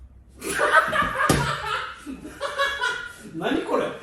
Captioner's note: laughter